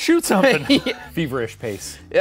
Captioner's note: laughing